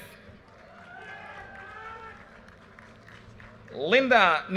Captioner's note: audience cheers and applause